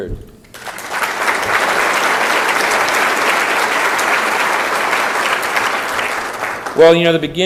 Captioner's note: applause